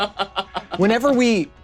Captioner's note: laughs